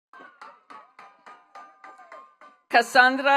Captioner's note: attendees clapping